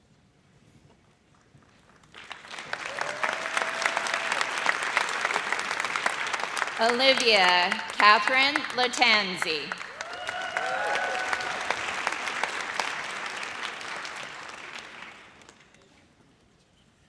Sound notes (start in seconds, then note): 2.6 audience applauds; 10.3 audience cheers